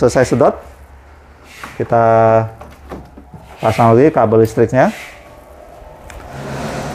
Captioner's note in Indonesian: suara kabel dipasang